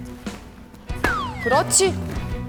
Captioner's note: hitting